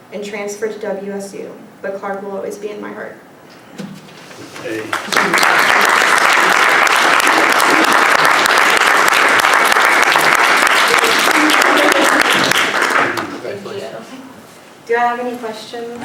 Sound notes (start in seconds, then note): 4.7 applause